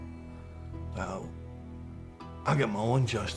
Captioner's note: scottish accent